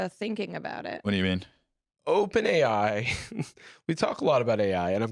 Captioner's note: laughs